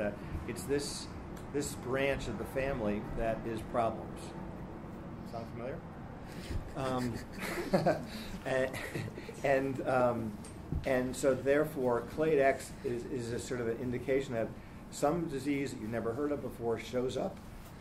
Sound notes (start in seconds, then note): 6.4 laughing